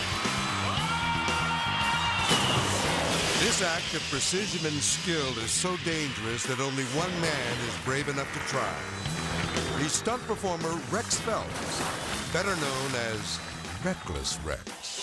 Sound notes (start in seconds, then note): 0.0 rider screaming; 0.1 rock music; 2.2 driver splashing; 6.8 water splashing; 8.6 cycle revving